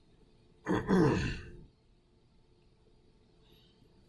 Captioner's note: clearing throat